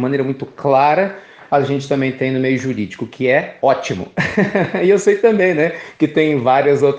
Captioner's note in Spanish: risas